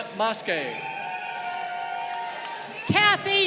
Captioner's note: crowd cheering